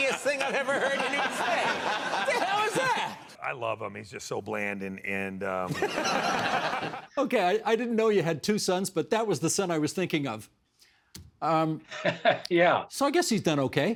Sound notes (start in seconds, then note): 5.7 laughing; 12.9 laughing